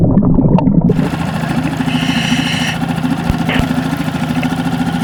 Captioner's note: water burbles; boat whirring